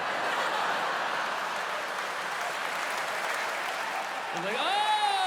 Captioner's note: laughter and applause